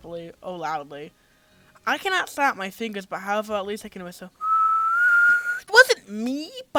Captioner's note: whistles